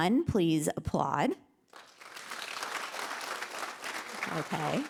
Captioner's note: applause